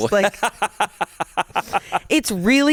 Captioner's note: everyone laughs